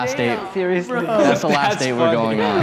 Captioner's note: everyone laughing